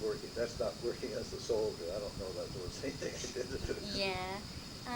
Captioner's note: laughs